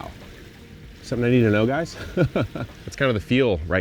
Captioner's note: chuckles